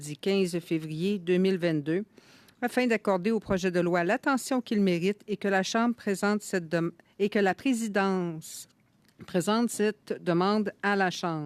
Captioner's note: speaking French